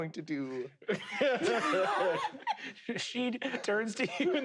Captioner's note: laugh